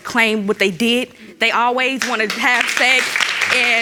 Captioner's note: audience clapping